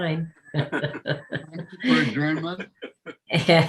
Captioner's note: laughing